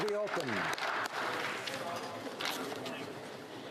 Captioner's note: applause